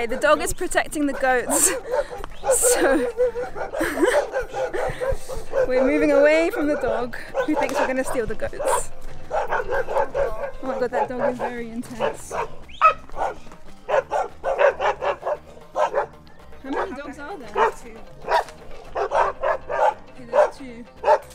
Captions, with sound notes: Okay, the dog is protecting the goats. So *Nervous laughter* we're moving away from the dog who thinks we're going to steal the goats. That dog is very intense. *Dogs barking* How many dogs are there? Two. There's two.